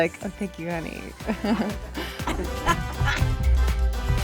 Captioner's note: chuckles